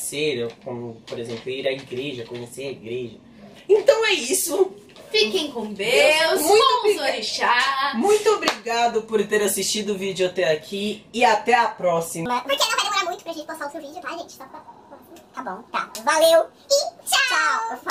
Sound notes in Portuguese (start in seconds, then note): 12.0 voz modificada